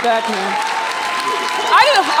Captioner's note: audience cheering drowns out speaker